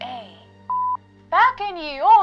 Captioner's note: beeps